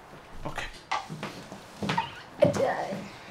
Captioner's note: footsteps